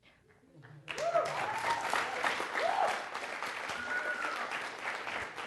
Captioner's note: cheers, applause